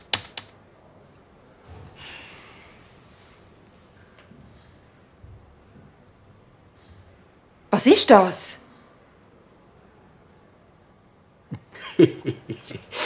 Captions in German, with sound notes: *seufz* Was isch das? *Lachend*